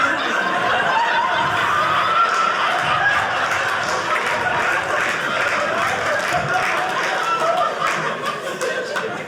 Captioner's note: audience laughing